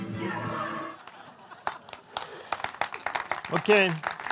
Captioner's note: audience cheers/laughs